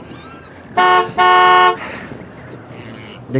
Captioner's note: car honking